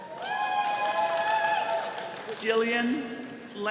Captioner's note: attendees cheering